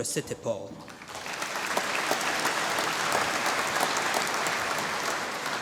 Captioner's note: applause